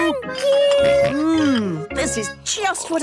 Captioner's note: snorts